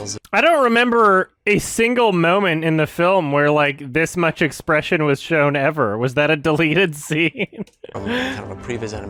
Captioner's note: laughs